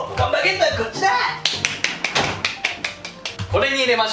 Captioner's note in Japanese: 拍手